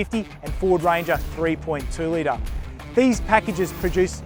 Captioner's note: engines